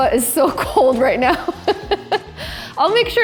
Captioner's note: laughs